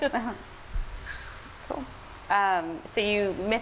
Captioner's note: laughs